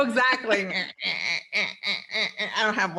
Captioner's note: quacks